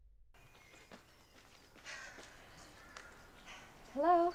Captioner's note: birds chirping